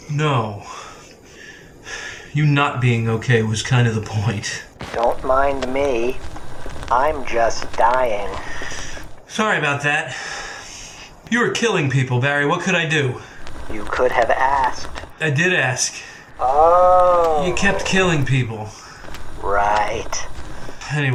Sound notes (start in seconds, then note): 4.9 scratchy robot voice; 13.3 scratchy robot voice; 16.4 scratchy robot voice; 19.2 scratchy robot voice